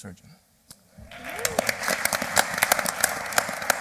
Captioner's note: applause